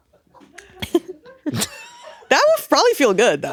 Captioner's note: all giggling